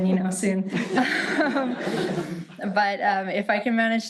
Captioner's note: audience laughing